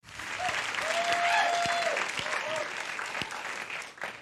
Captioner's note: audience cheering